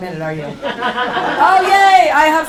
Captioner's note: laughing